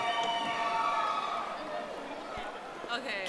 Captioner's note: audience applauding